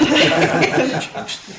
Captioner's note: laughing